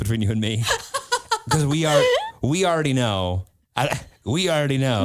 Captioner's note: laughs